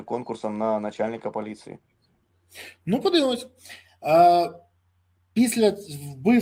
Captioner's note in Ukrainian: сопіння